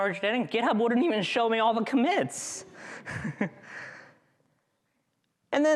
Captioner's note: chuckles